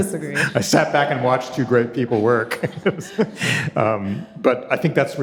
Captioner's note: chuckles